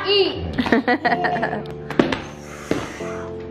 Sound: laughs

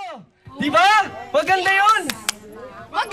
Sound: crowd murmuring

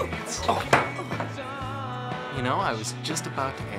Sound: grunts

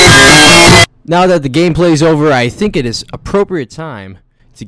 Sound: adjusts microphone

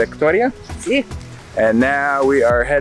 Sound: speaking foreign language

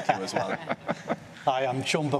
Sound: laughter

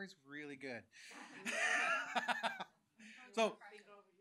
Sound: chuckles

